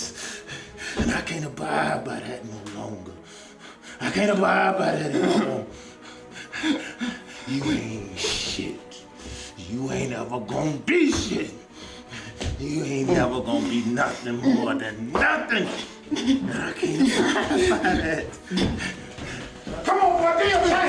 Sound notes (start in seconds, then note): 7.8 scared breathing